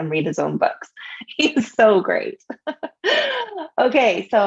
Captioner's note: laughs